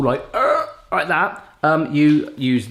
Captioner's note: groans